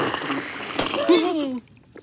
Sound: gasps

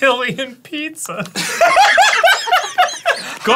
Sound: happy arin laughter; attempt at a russian accent

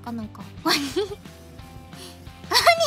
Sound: laughter

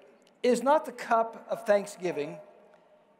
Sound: none

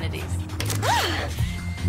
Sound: gasps

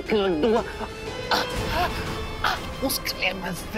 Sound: choking

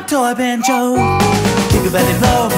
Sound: train whistle toots

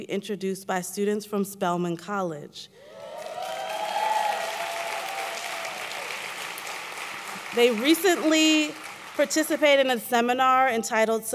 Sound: applause

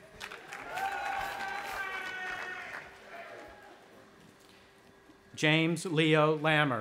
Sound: audience applauding and cheering

